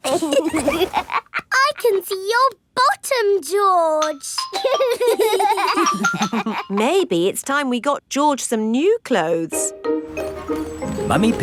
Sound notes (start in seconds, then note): 0.0 laughs; 4.5 giggling